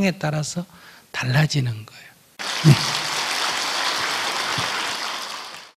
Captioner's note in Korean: 청중 박수